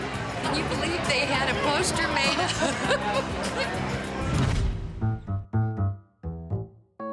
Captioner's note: laughs; light music